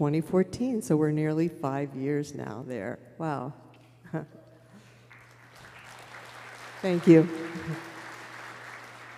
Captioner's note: applause